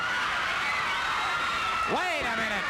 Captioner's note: crowd screaming